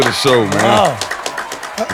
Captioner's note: audience applause